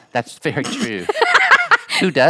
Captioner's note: laughing